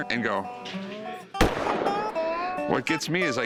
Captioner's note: gunshot